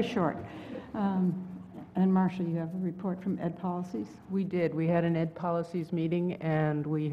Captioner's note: laugh